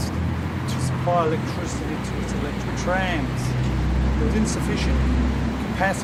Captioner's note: street cars